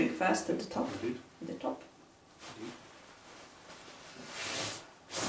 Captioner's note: fabric rustling